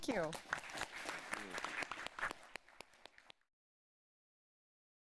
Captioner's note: applause